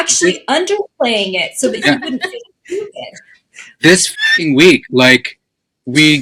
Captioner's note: neigh